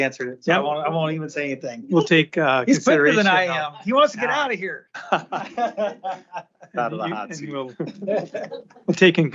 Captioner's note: laughter